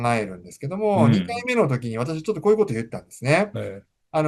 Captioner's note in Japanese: 咳払い